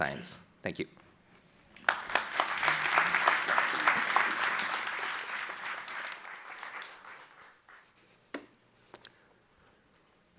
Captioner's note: applause